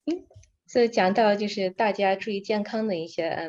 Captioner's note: speaking in foreign language; non-english speech